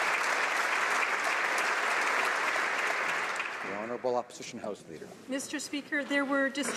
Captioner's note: applause